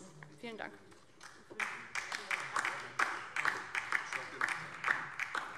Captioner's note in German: Beifall DIE LINKE